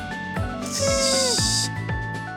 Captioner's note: hiss